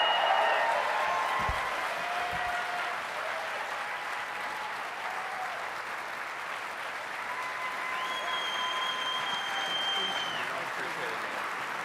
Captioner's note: applause